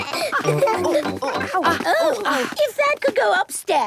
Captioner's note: exclamations; snorting; bleating